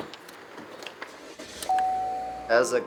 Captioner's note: engine starts